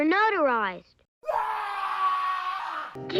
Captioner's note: scream sound effect